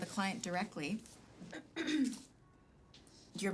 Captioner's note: Britney clears throat